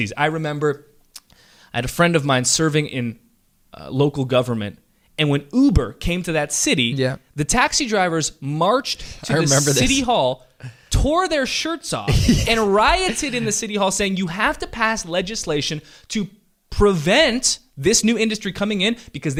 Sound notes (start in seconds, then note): 12.1 laughs